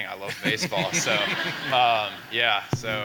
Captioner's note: people laughing